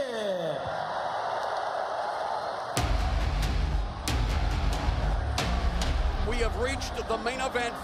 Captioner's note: crowd cheering